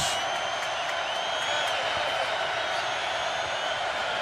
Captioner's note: crowd cheering